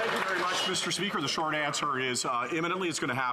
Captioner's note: some Applause